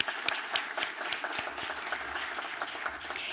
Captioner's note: applause